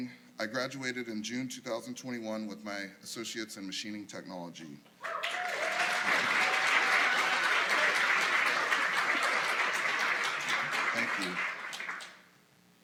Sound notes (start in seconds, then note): 5.1 applause